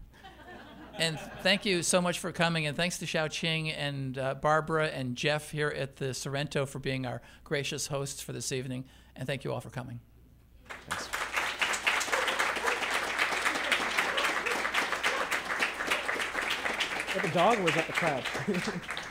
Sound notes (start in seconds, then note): 11.4 applause